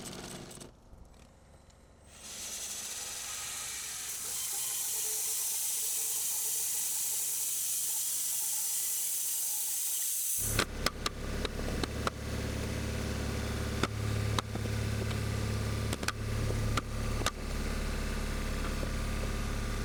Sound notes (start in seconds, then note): 11.1 engine revving